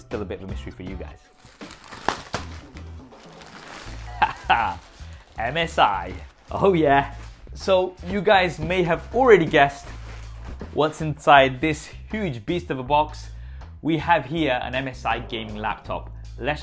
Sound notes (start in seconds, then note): 4.0 laughing